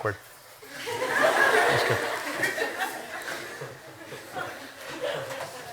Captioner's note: laughter